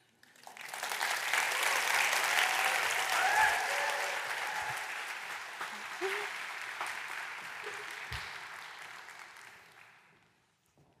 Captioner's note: applause